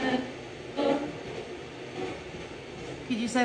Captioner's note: light machine noise